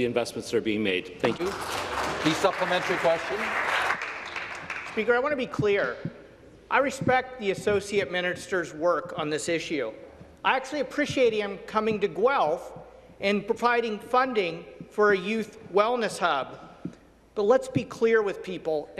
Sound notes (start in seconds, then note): 5.9 applause